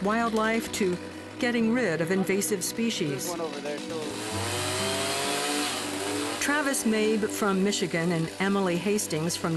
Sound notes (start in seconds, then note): 5.4 chainsaw buzzing